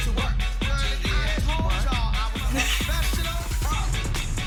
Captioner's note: laughs